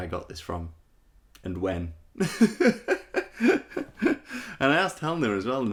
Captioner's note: laughing